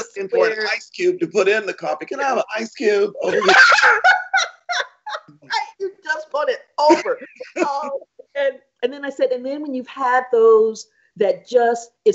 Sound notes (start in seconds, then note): 4.5 laughing